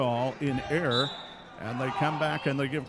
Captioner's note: referee whistling